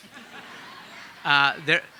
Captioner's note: audience laughing